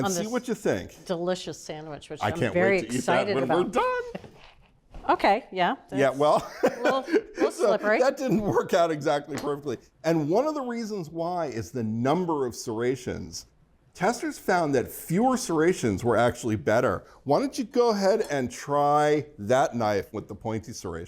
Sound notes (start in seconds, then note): 6.3 laughs